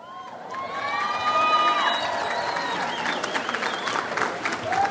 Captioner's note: audience applauds